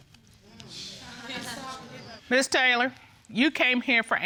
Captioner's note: audience scoffing